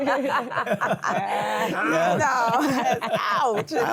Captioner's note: laughter